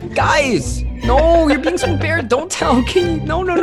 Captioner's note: laughing